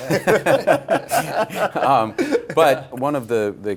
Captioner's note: laughter